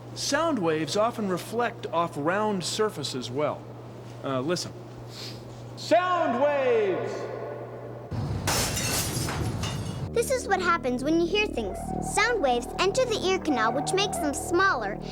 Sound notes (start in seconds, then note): 6.2 echoing; 8.3 glass shattering